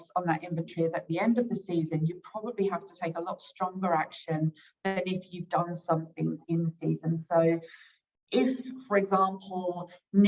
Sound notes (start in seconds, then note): none